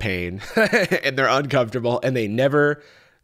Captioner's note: laughs